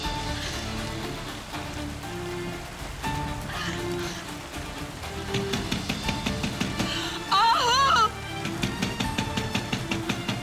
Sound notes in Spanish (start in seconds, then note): 5.3 Toques en la puerta; 8.3 Toques en la puerta